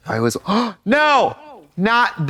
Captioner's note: Trixie gasps